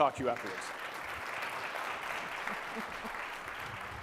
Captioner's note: audience clapping